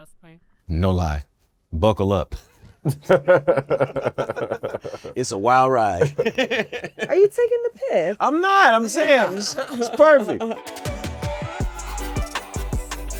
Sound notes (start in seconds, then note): 2.8 laughing; 10.5 electronic music